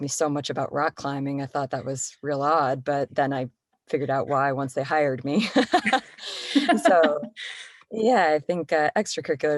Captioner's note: laughter